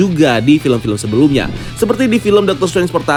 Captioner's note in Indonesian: suara transisi